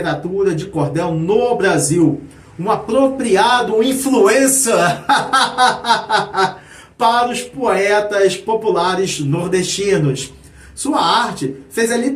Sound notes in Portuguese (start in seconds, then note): 4.8 risadas